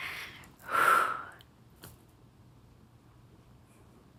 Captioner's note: exhaling